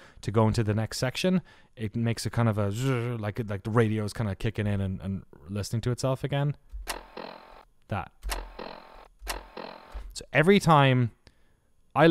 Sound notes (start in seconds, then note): 2.6 imitates radio; 8.3 static